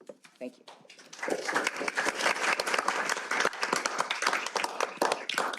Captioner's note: applause